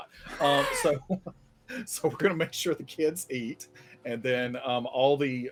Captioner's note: laughs